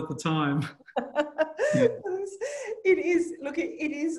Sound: laugh

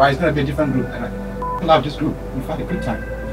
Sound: beep

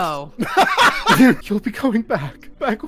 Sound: laughter

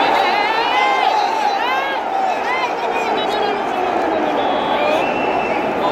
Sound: clap

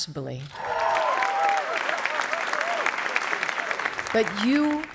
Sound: cheering

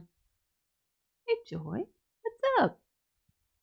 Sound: quietly

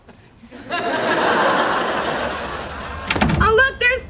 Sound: audience laughing

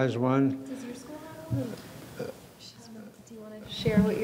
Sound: murmuring

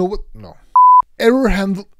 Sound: test pattern beeps

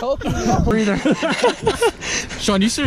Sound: laughing

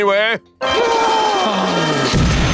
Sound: screaming

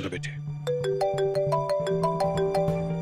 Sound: phone rings

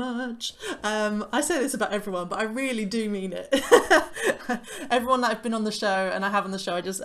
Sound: laughter

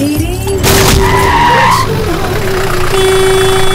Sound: tyres screeching; honking; jeep enging revving

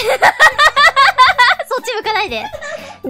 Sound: laughing

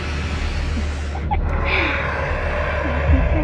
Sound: evil laugh

